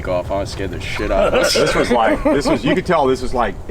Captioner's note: laughing